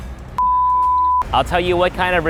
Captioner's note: beeping